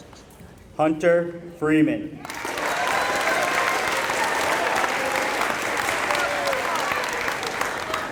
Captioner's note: applause